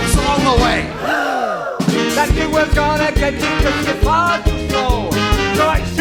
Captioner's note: gasps